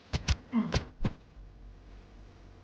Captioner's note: body thud